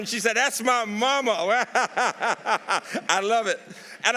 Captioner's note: laughs